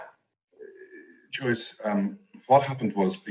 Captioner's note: stammers